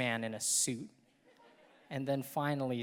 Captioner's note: audience laughing